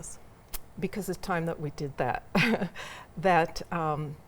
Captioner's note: chuckles